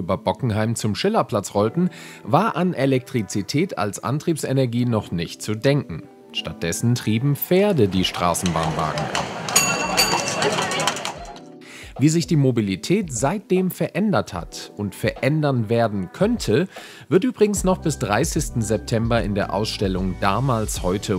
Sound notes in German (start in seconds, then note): 8.4 ♫ Hufe klappern, Pferdestraßenbahn klingelt ♫